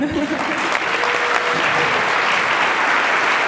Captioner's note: applause